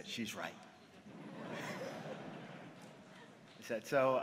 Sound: laughter

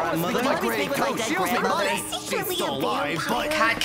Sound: students chatter

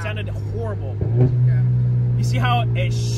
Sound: engine revving

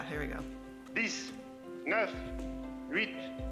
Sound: non-english speech

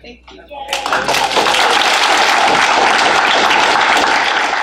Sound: students applauding

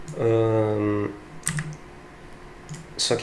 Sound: click

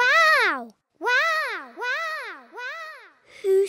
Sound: peppa's voice echoes around mountains

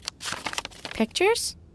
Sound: crinkling

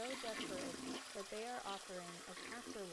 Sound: toilet flushes

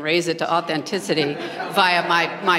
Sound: laughter

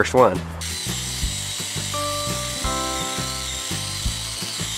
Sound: saw whining

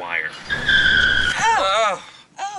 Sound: tires screeching

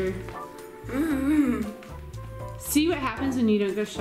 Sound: whines

